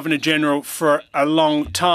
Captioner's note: speaking french